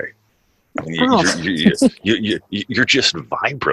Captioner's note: laughs